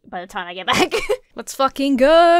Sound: chuckles

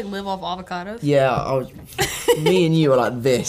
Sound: laughs

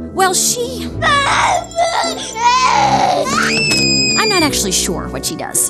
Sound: crying and screaming

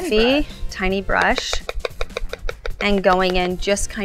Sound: tapping sound

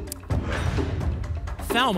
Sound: lock sound

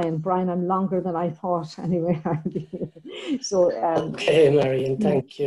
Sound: laughs

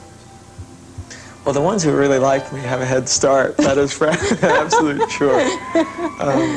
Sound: laughter

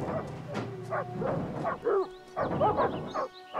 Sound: bangs on door

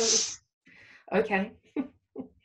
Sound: laughs

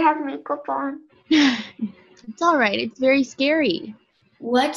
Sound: laughs

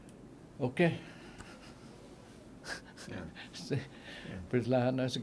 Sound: laughing

